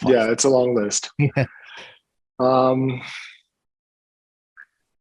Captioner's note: laughing